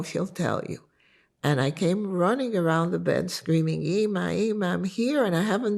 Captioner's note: hebrew